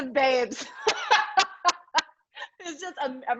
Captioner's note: laughs